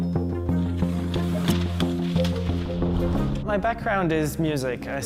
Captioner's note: electronic music; cutting